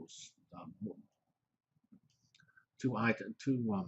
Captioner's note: pause